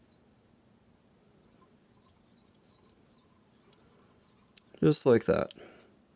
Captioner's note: thread whirling